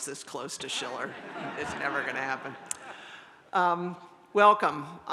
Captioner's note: audience laughs